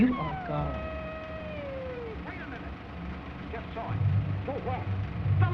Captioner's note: screeches